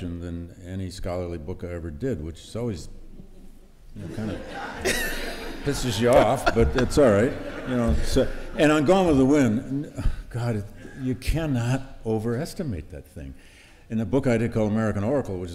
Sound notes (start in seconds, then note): 4.0 laughter